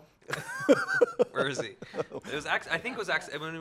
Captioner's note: laughing